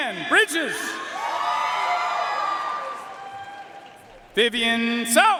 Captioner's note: audience cheering and applauding